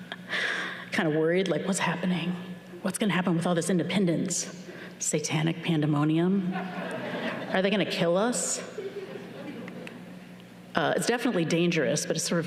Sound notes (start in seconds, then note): 8.6 chuckles